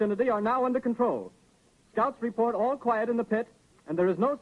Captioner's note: none